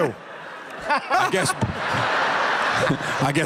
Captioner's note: laughter